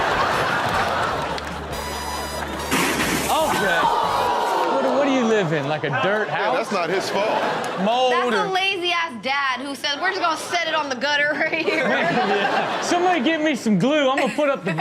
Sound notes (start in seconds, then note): 0.0 audience laughs; 2.7 basketball hoop crashes; 3.3 audience groans; 11.3 audience laughs